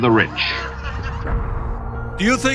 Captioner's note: laughing